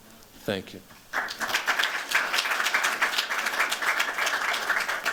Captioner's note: applause